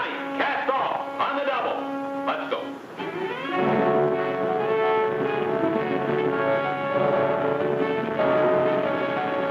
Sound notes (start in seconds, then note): 0.0 dramatic music; 3.2 dramatic music; 3.4 boat hums